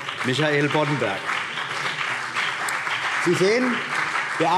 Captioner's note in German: Beifall CDU und BÜNDNIS 90/DIE GRÜNEN